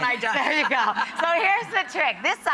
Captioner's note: laughing